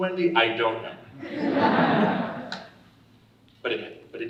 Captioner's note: audience laughing